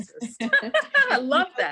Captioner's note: laughing